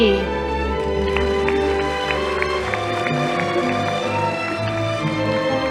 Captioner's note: audience applauding